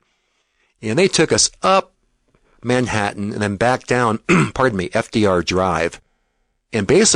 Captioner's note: throat clear